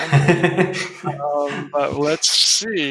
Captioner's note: laughing